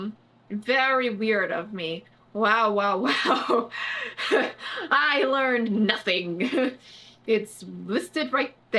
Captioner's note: laughs